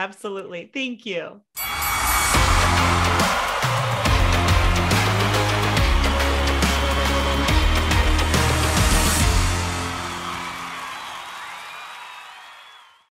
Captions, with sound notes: - Absolutely, thank you. (upbeat music) (crowd cheering)